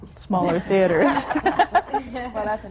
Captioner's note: laughter